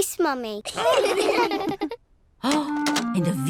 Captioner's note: all laugh